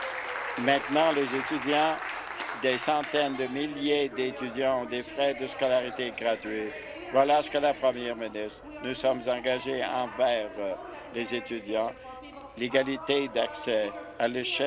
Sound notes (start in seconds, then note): 0.0 some Applause